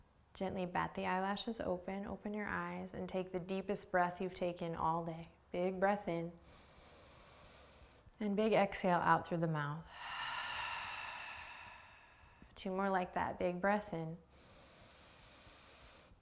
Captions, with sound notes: gently bat the eyelashes open, open your eyes, and take the deepest breath you've taken all day. Big breath in. (inhaling) And big exhale out through the mouth. (exhaling) Two more like that. Big breath in. (inhaling)